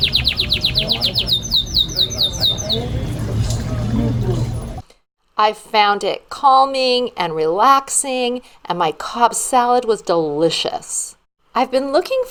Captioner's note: birds chirping